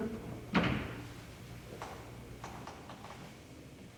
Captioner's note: door latching; floors creaking